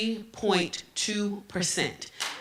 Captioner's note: applause